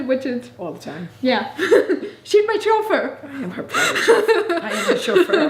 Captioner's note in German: lacht